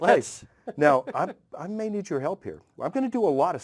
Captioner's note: laugh